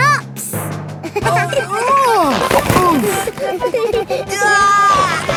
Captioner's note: giggling; grunting; giggling